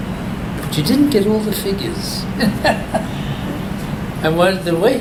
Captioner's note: all laugh